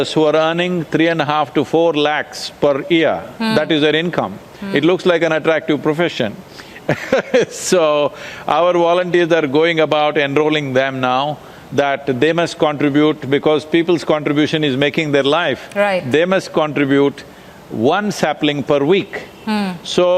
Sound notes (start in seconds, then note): 6.9 laughs